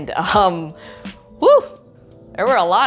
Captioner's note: sighs loudly